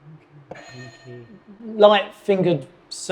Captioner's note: buzzer blares